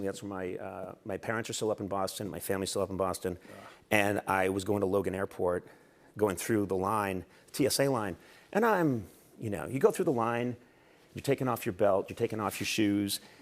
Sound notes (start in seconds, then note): none